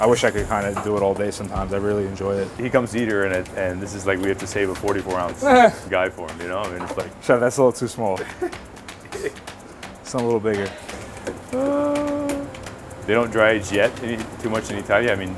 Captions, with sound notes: - "I wish I could, kinda, do it all day sometimes. "I really enjoy it." - He comes to eat here, and this is like, we have to save the 44 ounce we got for him, you know? And he's like... - "Chef, that's a little too small. (both laughing) "Something a little bigger." - They don't dry age yet, too much yet in Italia.